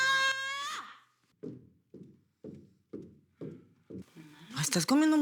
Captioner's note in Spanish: Gritando